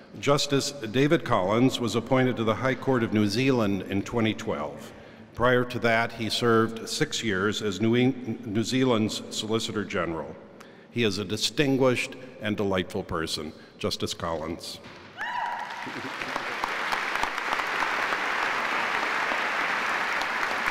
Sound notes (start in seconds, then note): 15.2 cheer; 15.4 applause